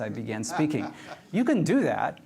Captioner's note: laughs